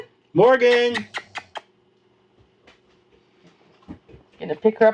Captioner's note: kissing noises; sounds of foot steps